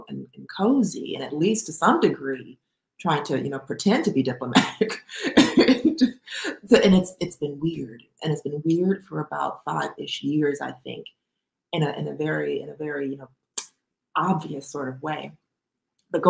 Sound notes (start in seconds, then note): 6.4 laughs